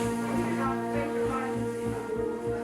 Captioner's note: indistinct chatter